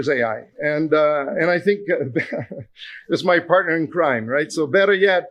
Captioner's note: chuckles